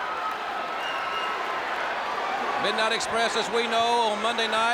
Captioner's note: crowd chatter